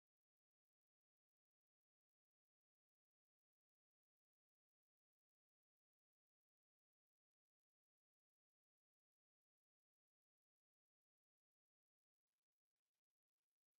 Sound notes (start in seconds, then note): none